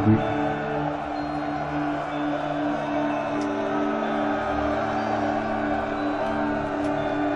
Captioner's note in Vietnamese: Vỗ tay